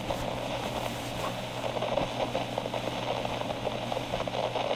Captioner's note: fluffing pillow fx